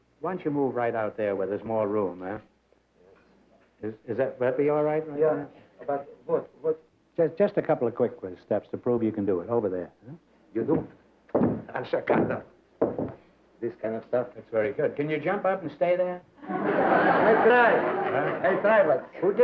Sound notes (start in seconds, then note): 16.4 laughter